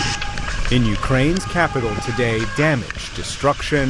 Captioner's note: sirens blaring